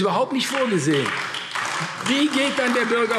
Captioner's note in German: Beifall AfD